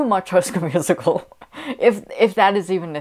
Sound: laughing

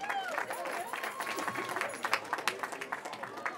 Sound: cheering

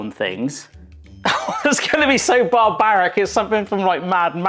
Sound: laughs

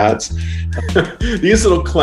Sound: chuckles

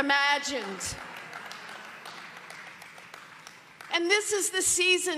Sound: audience clapping

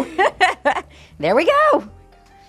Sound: laughs

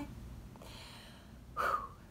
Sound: exhales

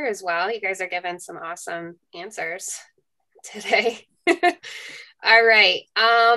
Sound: laughs

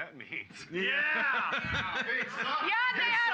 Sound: loudly laughing

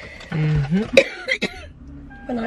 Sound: coughing

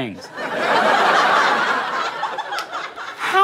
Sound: audience laughing

